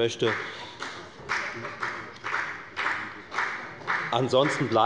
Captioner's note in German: Beifall bei der FDP